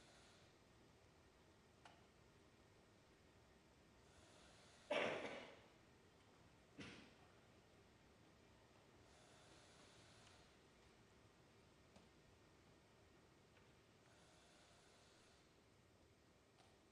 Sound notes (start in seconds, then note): 2.9 silence; 15.2 silence